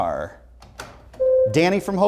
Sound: buzzer sounds

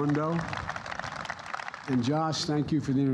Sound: applause

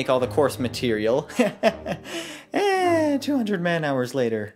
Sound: laughs

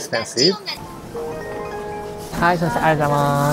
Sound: reader chimes

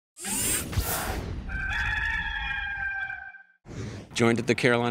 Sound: rooster crowing

